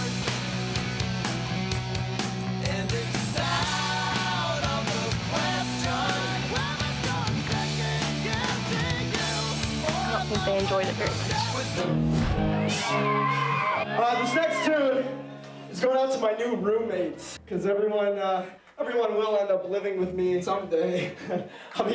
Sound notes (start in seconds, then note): 0.2 upbeat rock music; 11.5 crowd cheering